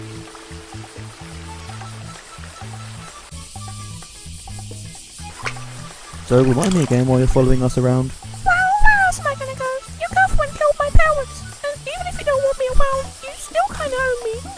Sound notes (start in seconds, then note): 0.1 cicada + running water noises; 3.4 cicada noises; 5.0 water splosh sound